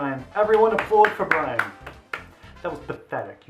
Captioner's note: clapping